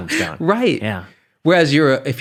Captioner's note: laughs